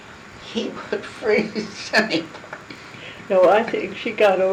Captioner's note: laughing